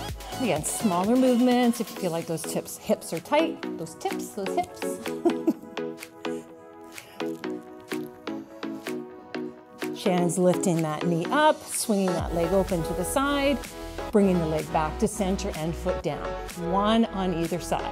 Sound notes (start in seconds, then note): 7.7 laughs